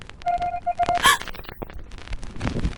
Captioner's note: gasp